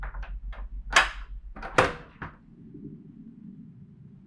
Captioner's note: rattling